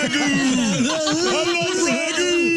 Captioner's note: laughing